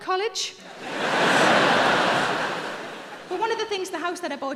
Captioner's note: audience laughing